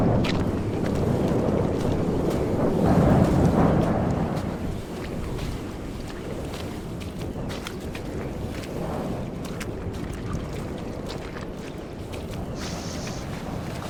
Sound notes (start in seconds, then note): 0.2 mud squelching; 3.4 puddles splashing